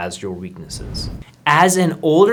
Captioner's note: air whooshing